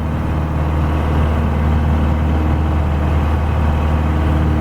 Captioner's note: engine rumbles